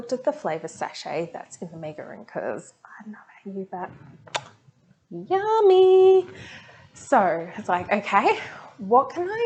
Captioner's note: lips smack sound